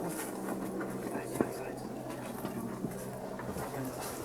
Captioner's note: whispering